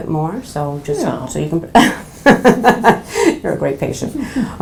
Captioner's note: laughs